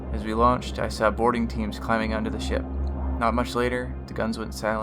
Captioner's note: none